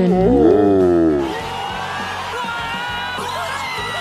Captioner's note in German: Frenetischer Jubel